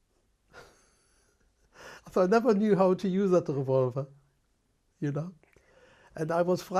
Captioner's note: laughs